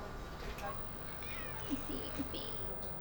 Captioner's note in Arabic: مواء قط